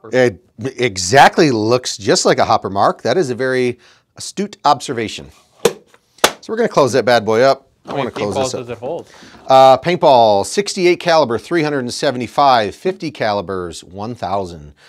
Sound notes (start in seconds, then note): 5.6 lid slamming